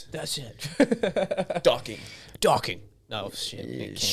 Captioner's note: laughing